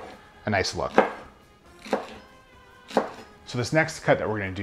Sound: chopping

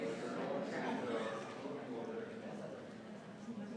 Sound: people chattering

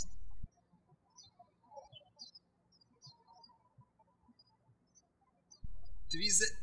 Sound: birds chirping

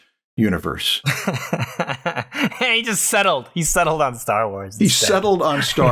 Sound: laughter

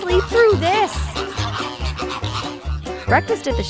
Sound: squawking

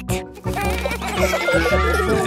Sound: children giggling

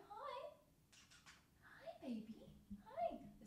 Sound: kisses

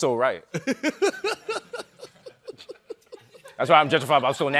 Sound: chuckling

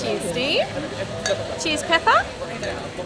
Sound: glass clinking

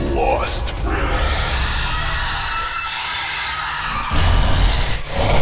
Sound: Gorgon Screams

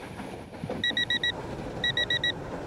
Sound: alarm ringing

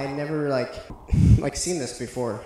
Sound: breathing

